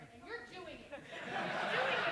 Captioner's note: laughter